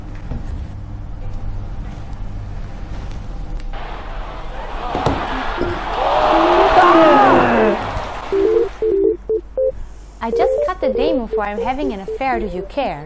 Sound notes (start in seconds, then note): 3.7 crowd sound from TV; 5.8 crowd shouting from TV